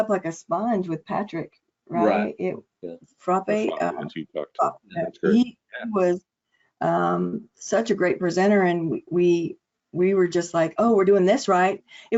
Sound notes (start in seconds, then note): 3.2 audio distortion